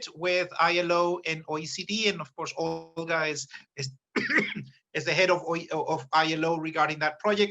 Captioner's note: coughs